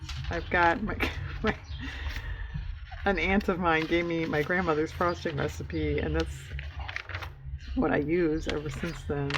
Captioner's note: laughs